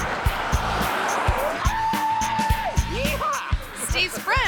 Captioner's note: swinger screams; giggles